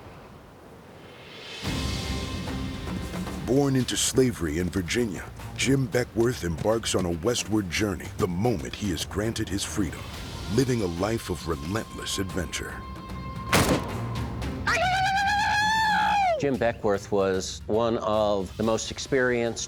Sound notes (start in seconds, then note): 13.5 gunshot; 14.3 war cries